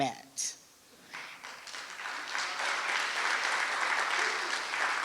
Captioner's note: applause